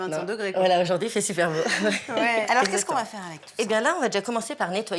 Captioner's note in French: rires